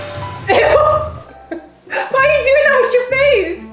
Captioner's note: dramatic music; laughing